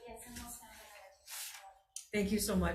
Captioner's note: offscreen Voice